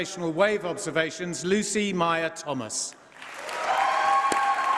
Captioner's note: applause